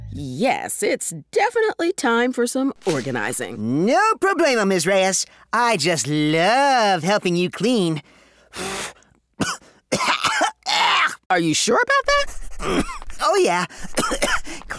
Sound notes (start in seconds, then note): 8.5 blows; 9.4 coughs; 13.7 coughs